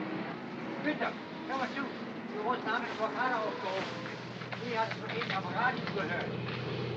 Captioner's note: worker speaking in German; aircraft rumbles overhead